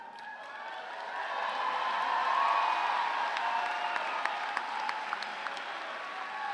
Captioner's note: cheers and applause